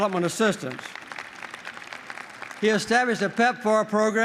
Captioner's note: applause